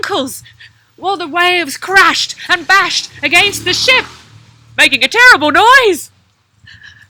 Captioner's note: sound of passing car